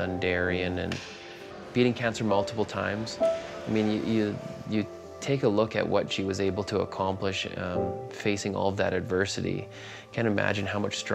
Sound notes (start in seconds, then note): none